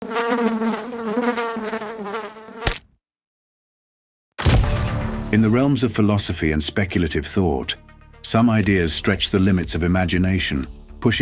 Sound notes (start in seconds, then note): 0.0 fly buzzing; 2.6 fly splatting